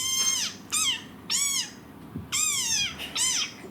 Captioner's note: squeaking; giggling